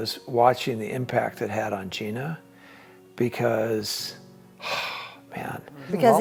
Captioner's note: exhales